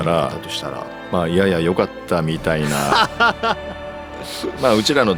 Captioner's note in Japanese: 笑い